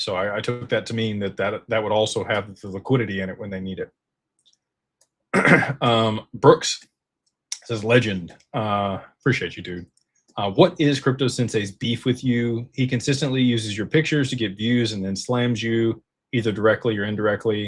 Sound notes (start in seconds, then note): 5.3 clears throat